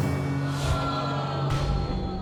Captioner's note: audience exclaims